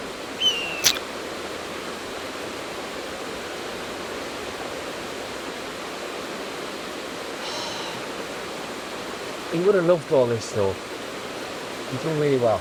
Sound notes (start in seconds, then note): 0.3 bird calls; 0.4 bird feces splats; 5.9 Gary sighs